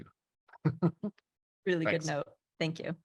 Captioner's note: laughing